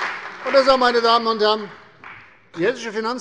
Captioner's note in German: Beifall bei der CDU